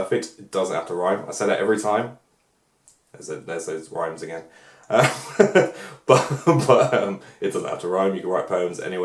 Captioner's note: laughs